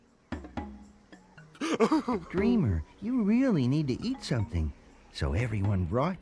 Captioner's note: Dreamer sobs